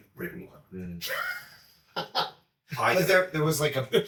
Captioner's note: chuckling